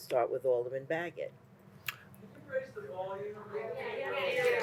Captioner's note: crowd mumering about the volume level